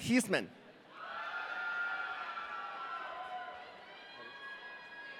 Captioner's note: audience cheering